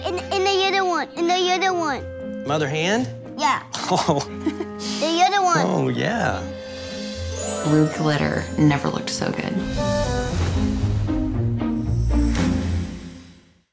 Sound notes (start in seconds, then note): 5.3 laughing; 10.3 dramatic music